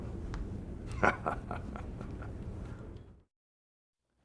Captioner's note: Hogan laughs